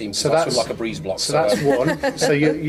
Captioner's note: laughs